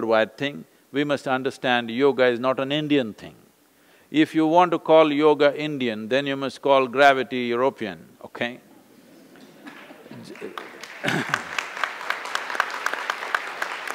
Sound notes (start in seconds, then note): 9.3 laughter/Applause